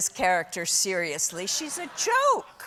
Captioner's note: laughter